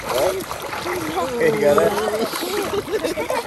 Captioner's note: laughs and spits out water